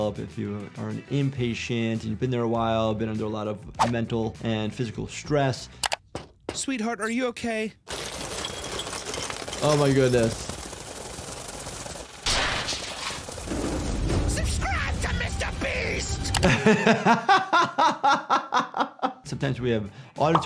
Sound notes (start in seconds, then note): 6.1 knocking on door; 7.8 coins rattling; 12.5 metal grinding; 16.3 laughs